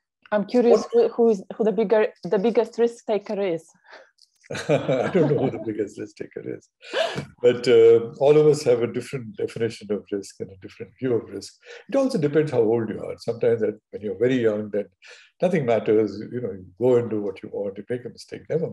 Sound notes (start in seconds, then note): 4.5 both laughing